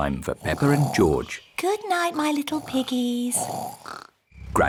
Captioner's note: both snoring